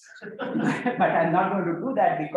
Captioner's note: audience laughs